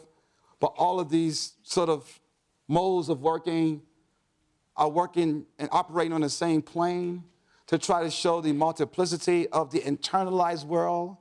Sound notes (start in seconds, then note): none